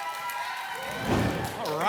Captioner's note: applause and cheering cont; whoosh